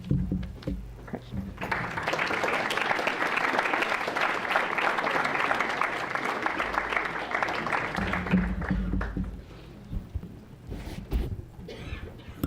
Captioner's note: applause